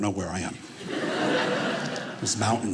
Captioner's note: audience laughing